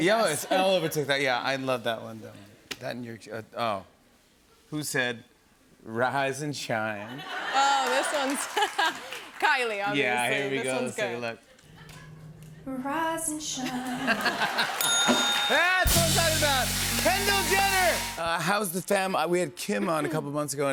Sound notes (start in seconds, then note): 14.8 ding!